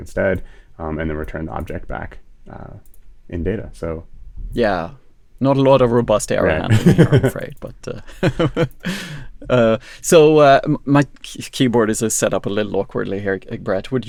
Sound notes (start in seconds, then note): 8.1 laughs